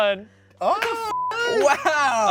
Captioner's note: beep